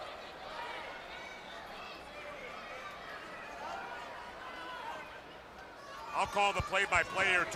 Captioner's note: crowd chatter